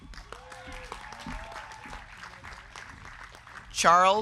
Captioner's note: crowd cheering